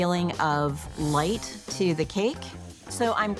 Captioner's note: screen whooshing